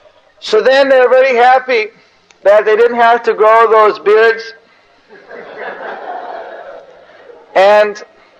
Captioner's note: devotees laugh